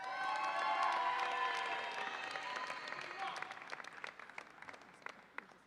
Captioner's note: audience applauds and cheers